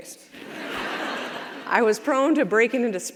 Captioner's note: audience laughs